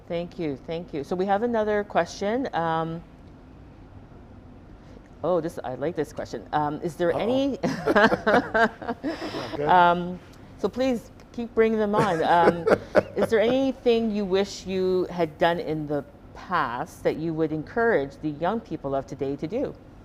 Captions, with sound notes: - Thank you, thank you. So we have another question. Oh, I like this question. Is there any- - Uh oh. (Donovan chuckling) Go ahead. - So please keep bringing them on. (Donovan laughing) Is there anything you wish you had done in the past that you would encourage the young people of today to do?